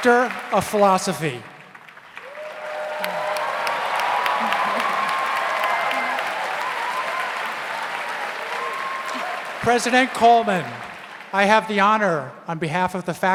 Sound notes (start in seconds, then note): 2.0 audience cheers; 2.5 audience applauds